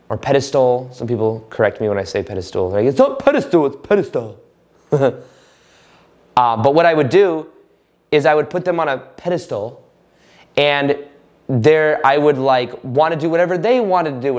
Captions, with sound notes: or pedestal, some people correct me when I say pedestool. They're like, "It's not pedestool. It's pedestal. (laughing)" But what I would do is I would pet them on a pedestal, and there, I would wanna do whatever they wanted to do,